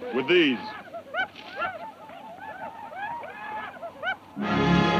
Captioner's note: Apaches shout; dramatic music